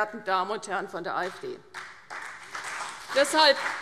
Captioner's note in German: Beifall CDU und BÜNDNIS 90/DIE GRÜNEN